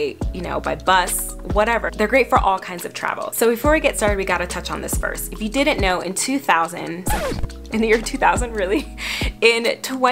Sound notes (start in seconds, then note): 7.0 record scratching